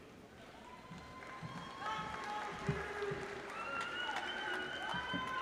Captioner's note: audience applauds